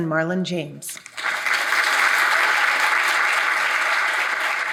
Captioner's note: audience applauding